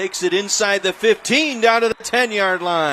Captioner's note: applause